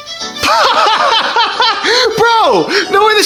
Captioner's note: laughs loudly